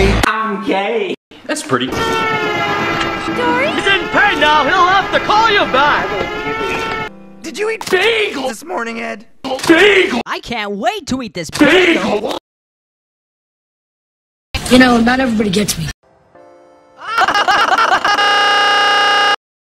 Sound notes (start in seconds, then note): 1.7 interrupting train